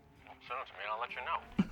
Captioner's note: hawk on phone